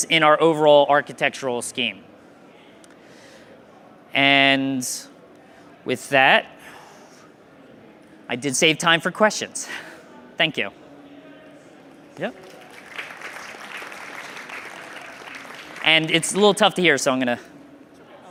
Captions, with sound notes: in our overall architectural scheme. And, with that, I did save time for questions. Thank you. Yeah. (crowd clapping) And, it's a little tough to hear, so I'm gonna.